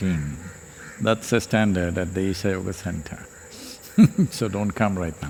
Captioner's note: laughs